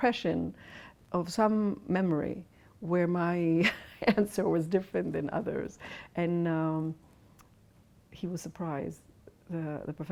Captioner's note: laughs